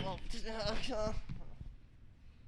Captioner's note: exasperated mumbling